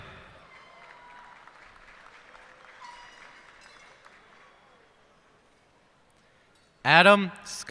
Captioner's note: cheers and applause